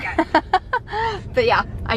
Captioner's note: giggling